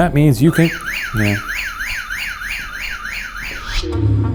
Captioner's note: motion alarm blaring; pulsing pensive music